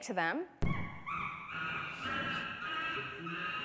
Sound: chimp calling

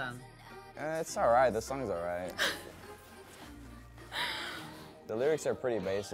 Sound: Bella laughs

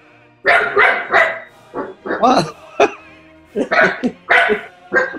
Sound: dog barking off screen; laughter

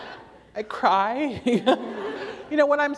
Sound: laughter

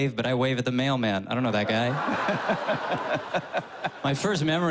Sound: laughter

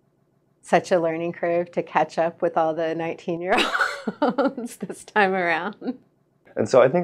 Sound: laughs

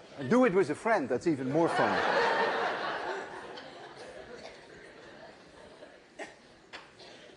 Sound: laughter

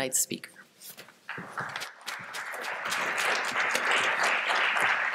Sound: applause

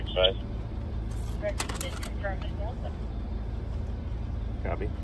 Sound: radio transmission

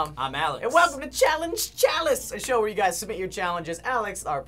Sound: none

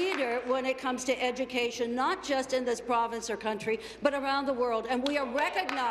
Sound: applause

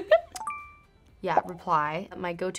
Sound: laughs; chiming

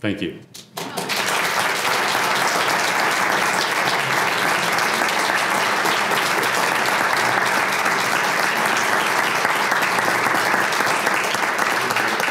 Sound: applause

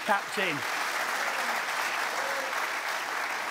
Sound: applause

